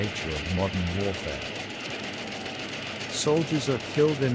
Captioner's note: machine gunfire